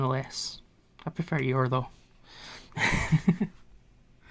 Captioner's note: laughs